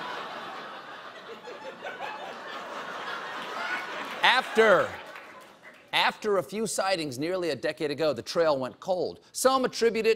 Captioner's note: laughter